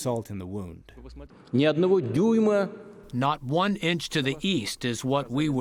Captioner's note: through translator